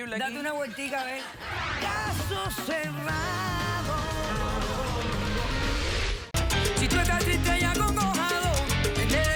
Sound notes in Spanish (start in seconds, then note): 0.4 risas